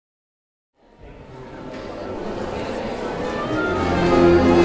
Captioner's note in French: murmures du public